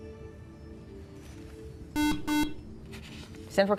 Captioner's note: buzzer